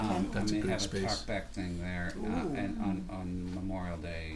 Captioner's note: voiceover